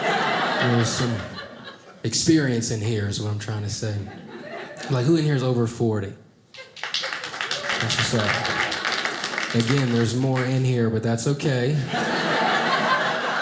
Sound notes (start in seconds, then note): 6.6 audience applauding; 11.8 audience laughing